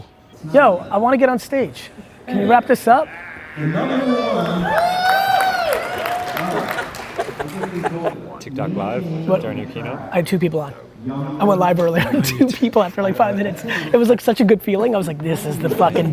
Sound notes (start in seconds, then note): 3.7 audience applauds